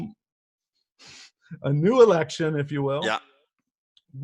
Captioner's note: laughs